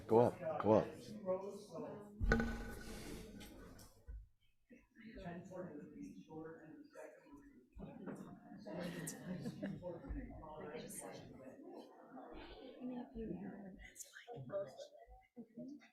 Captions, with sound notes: >>Yeah, go up, go up. (people chattering)